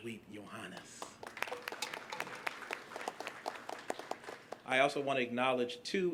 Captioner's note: applause